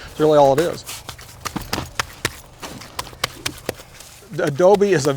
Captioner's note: mud squelching